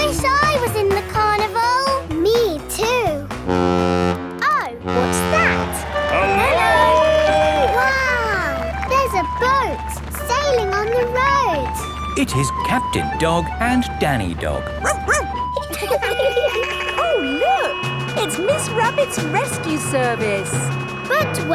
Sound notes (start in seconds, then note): 4.8 horn bellowing; 14.5 laughing; 14.8 barks; 15.3 sirens sounding